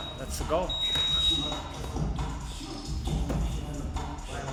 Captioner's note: timer beeps